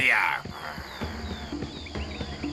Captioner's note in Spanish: gruñe